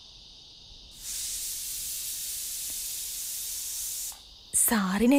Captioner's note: Cooker whistle blows